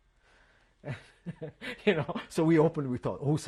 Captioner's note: laughs